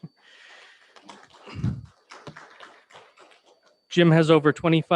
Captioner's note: members clapping